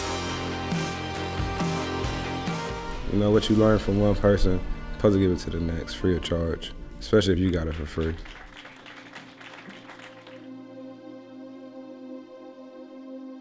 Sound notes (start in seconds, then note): 9.8 applause